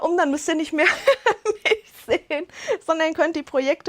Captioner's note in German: Lachen